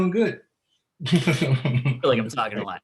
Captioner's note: giggling